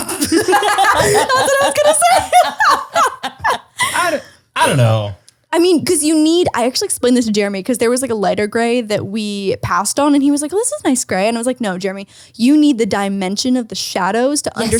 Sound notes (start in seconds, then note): 0.0 laughter; 3.2 ladies laugh